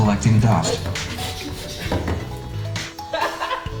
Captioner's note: laughing